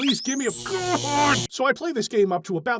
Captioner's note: electroshock